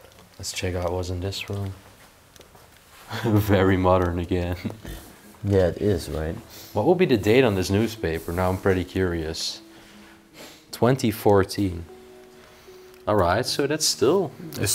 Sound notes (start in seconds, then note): 3.0 chuckling